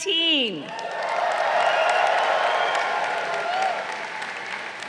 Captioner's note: crowd cheering